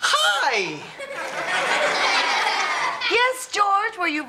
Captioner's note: audience laughs